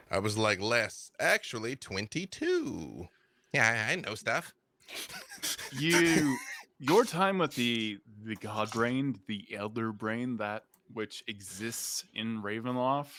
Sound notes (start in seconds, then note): 4.9 laughs